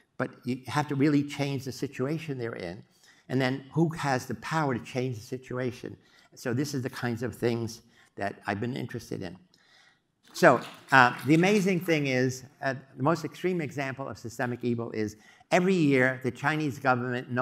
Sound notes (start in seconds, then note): 10.3 applause